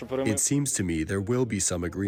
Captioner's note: through translator